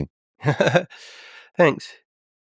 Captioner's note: Tim laughing